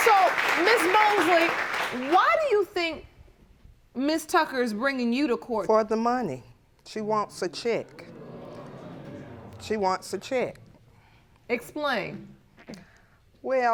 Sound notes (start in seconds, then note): 5.5 audience exclaiming